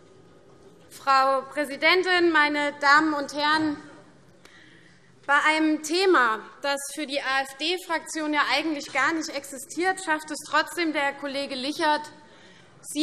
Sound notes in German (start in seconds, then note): none